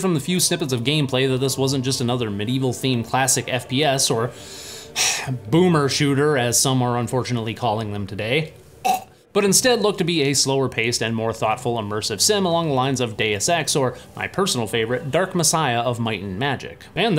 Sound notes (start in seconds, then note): 4.4 sigh; 8.9 pukes